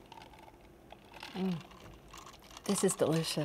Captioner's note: ice clinking